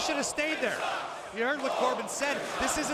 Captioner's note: crowd cheering